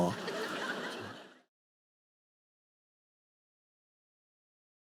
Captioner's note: audience laughing